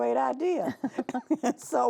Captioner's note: both chuckling